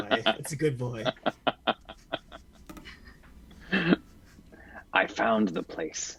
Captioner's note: chuckles; chuckles more